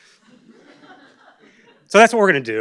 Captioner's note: laugh